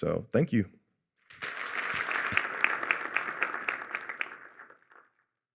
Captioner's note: applause